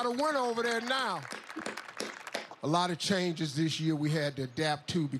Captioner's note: applause